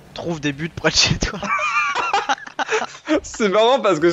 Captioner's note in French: rires